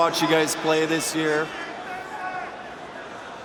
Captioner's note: cheers and applause